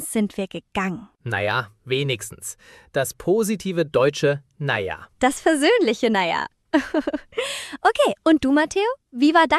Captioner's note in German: gelächter